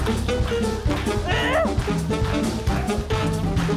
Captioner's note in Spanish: Gruñe